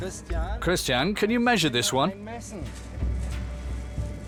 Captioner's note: in German